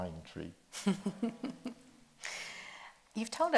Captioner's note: chuckles